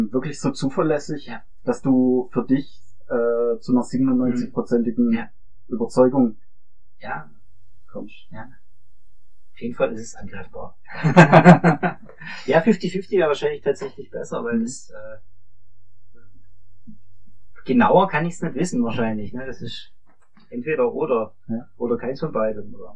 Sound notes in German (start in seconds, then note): 11.0 lacht